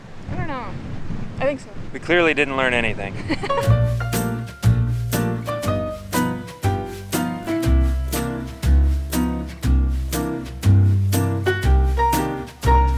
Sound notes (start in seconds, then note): 3.2 chuckles; 4.3 upbeat music